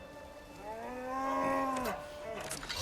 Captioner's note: roar